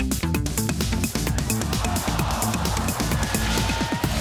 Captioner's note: audience gasps